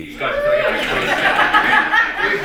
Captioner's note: laughter, cheers